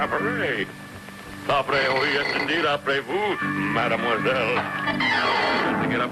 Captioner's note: Mr. Magoo speaking in foreign language